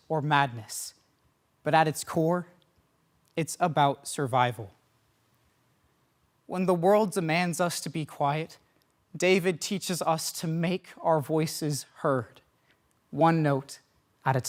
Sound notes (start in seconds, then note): 4.8 silence